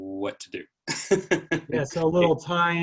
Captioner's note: laughs